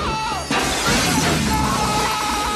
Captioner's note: Mitch screaming; glass crunching; Mitch screaming